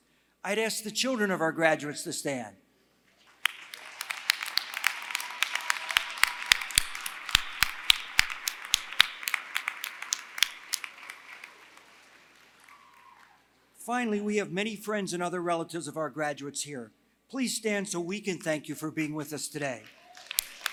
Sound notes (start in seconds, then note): 3.2 applause; 19.8 applause